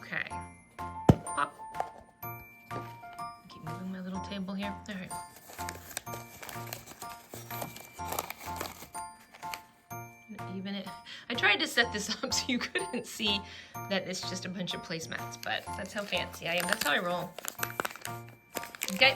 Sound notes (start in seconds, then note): 8.7 laughs